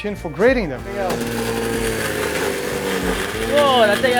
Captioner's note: food processor grinding